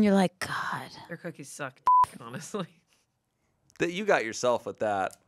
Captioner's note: beep; laughs